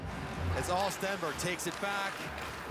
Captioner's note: cheering